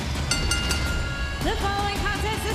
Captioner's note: bell chimes